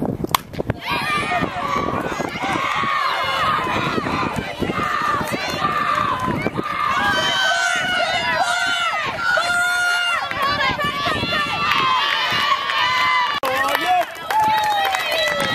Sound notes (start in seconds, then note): 4.7 cheers